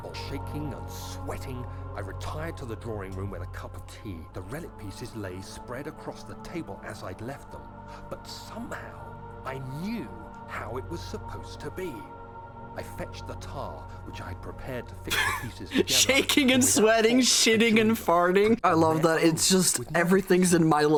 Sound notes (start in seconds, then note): 15.0 laughs